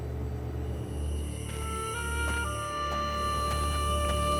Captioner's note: insects chirping